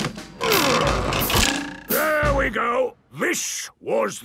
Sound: wood creaking; boings

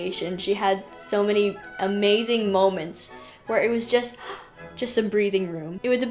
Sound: gasp

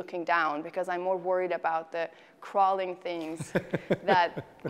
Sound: laughs

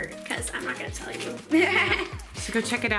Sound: giggles

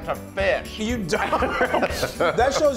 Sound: laugh

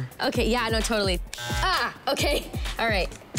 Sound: buzzing

